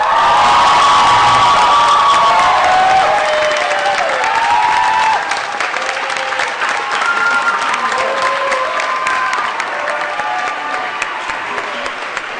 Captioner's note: applause & Cheering